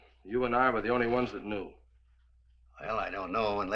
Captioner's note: none